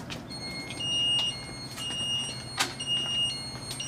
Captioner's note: alarm beeping